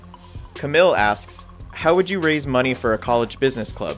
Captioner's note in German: Voice-over